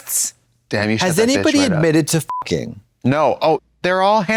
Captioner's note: beep